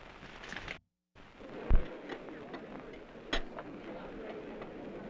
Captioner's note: background chatter